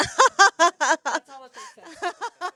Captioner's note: laughter